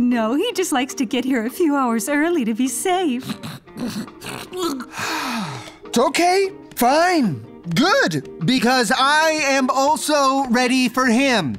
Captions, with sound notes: No, he just likes to get here a few hours early, to be safe. [sighs] Okay. Fine. Good. Because I am also ready for him.